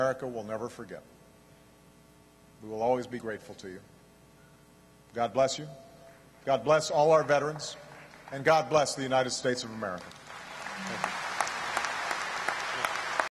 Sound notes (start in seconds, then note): 9.8 applause